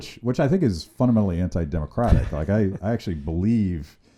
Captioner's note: laughs